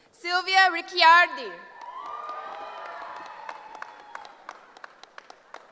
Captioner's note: cheering